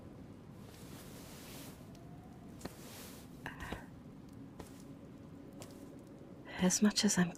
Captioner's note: pages stop turning, quiet footsteps approach